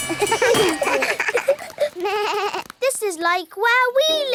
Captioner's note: all laugh